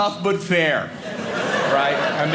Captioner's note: audience laughing